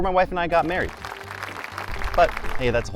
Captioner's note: crowd applauding